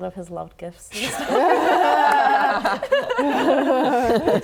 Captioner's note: laughing